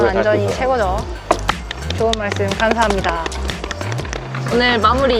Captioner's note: clapping